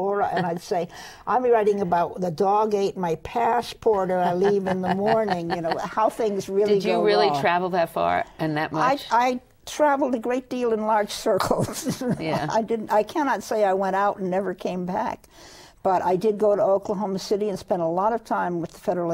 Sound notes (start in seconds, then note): 7.4 laughs